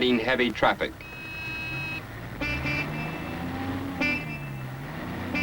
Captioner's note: horns honking